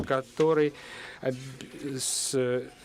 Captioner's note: none